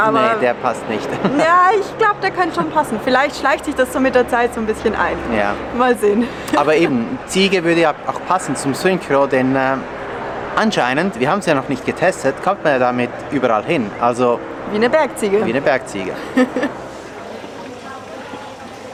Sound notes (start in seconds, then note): 16.1 laughter